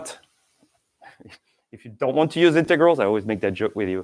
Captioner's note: chuckles